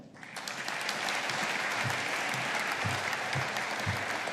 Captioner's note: audience applauding